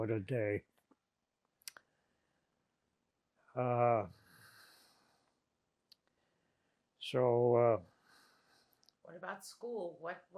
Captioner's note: pauses 6 seconds